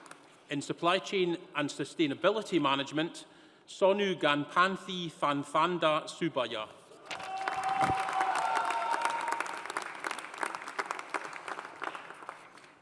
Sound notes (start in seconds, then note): 7.1 audience cheering; 7.1 audience applauding